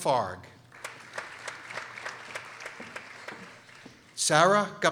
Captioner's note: people applauding